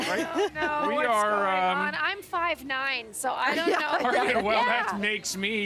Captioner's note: laughter